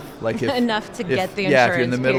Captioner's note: chuckles